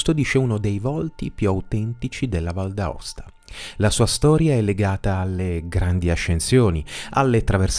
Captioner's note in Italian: sbuffare